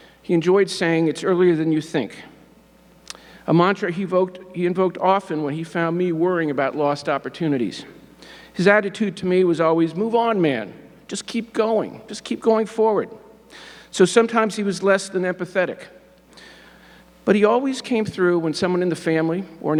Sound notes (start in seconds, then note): none